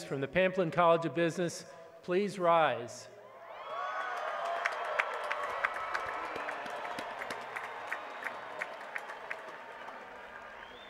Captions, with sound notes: from the Pamplin College of Business please rise? [APPLAUSE]